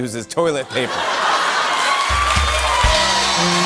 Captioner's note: laughter, cheers, applause